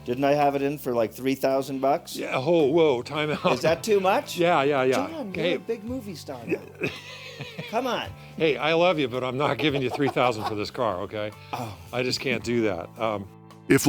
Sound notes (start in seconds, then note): 6.4 laughs